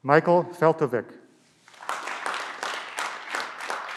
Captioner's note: clapping